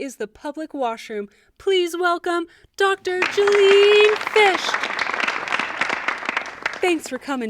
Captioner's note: audience applause